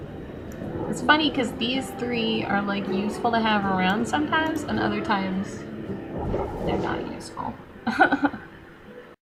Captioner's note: laughs